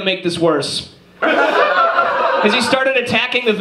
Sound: audience laughs

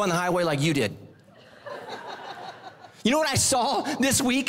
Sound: congregation laughing

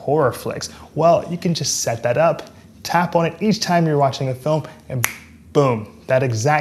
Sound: snaps finger

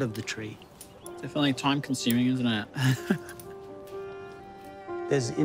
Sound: laughs

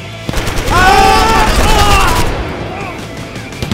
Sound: shouting

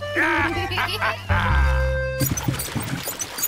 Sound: both giggle

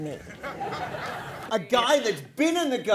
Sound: laughter

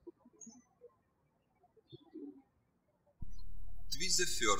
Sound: bird chirping

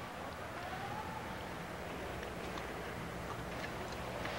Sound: siren wails

